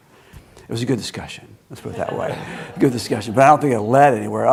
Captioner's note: laughing